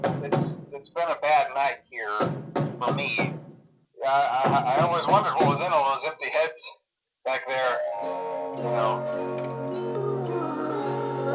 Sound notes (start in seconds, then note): 4.0 stuttering